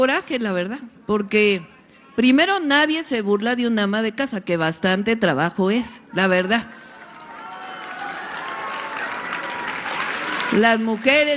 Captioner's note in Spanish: aplausos